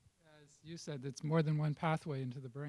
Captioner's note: voiceover